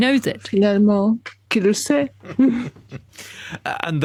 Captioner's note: laughs